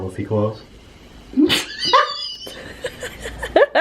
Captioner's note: laughs